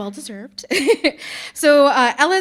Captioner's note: chuckling